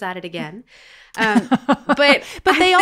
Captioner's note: laughs